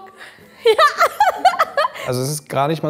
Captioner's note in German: lacht